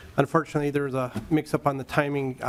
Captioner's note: gavel